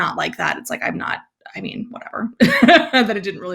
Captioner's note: laughs